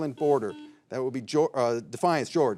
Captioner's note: signal beeps